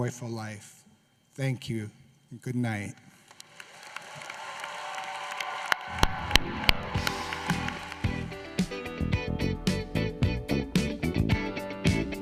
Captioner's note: applause